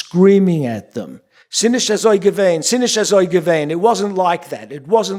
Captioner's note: speaking yiddish